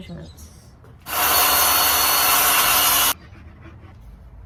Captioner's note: circular saw saws some more